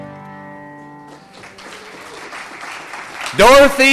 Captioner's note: audience clapping